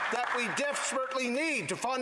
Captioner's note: some Applause